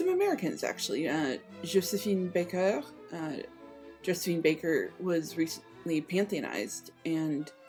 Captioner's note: French accent; American accent